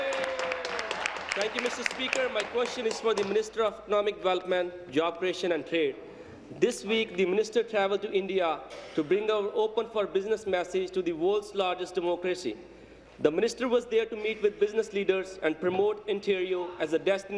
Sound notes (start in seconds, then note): 2.5 applause